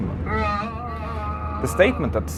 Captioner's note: groaning over plane's PA system